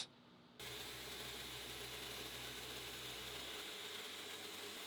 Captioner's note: machine whirring